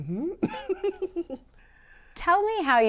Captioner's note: laughs